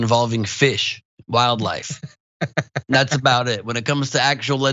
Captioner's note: laugh